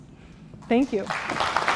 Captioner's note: applause